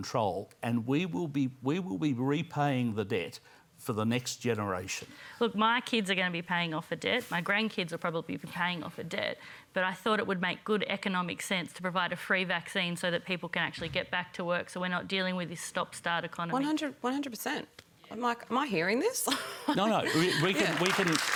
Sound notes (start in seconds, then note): 19.8 laughs; 20.1 applause